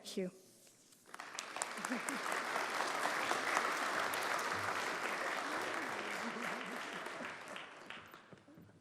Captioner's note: applause